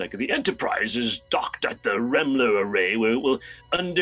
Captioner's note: imitating the voice